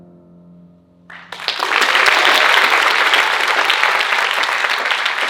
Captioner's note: audience applauding